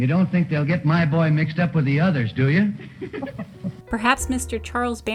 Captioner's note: laughter